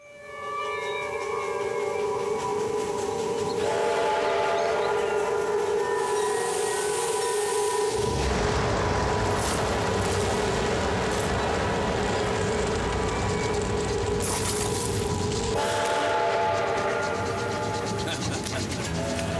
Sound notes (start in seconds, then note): 0.2 gentle music; 0.2 train chugging; 3.8 train whistle blowing; 7.7 fire roaring; 15.5 train whistle blowing; 17.9 man laughing; 19.1 dramatic music